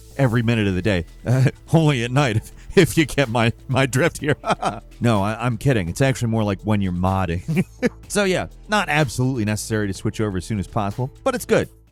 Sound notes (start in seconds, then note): 3.7 chuckles